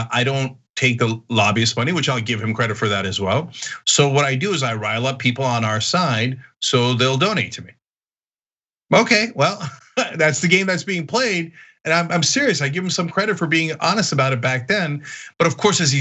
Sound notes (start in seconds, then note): 9.3 laugh